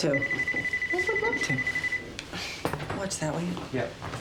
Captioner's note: telephone rings